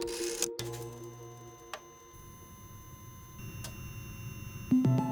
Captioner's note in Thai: เสียงเครื่องคอมพิวเตอร์; ดนตรีชวนครุ่นคิด